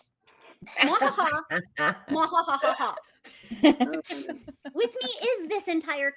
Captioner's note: imitating maniacal laughter